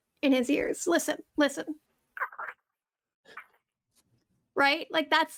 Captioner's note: garbage squeaking